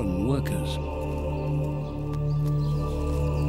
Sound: men chanting

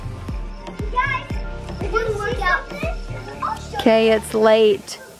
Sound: shouting

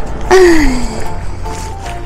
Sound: laughs

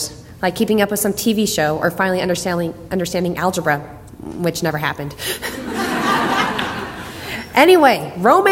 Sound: laughs; audience laughter

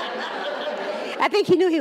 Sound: laughter

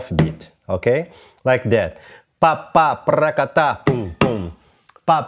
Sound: vocalizes rhythm

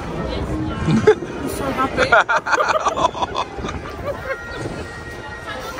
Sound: both laugh

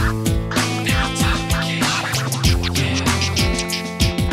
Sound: sexy whispering

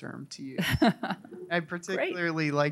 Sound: laughing

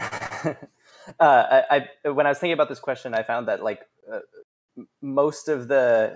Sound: chuckles

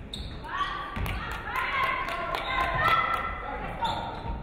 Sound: audience clapping

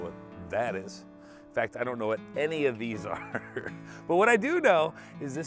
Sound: laughs

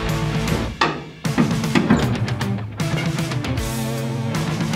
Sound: thudding metal

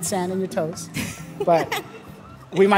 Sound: chuckling

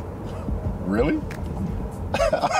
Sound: scoffs; laughing

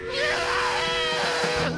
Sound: screaming, whistle blowing

